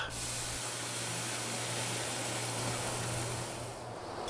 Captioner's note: hissing